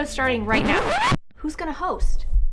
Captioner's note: record scratch